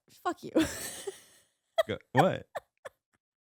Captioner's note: laughing